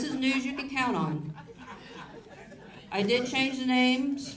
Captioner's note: audience laughs